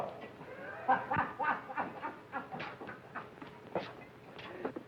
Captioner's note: happy laughing